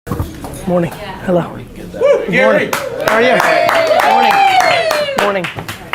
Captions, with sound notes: - Morning? Hello. (cheering) How are you? Morning?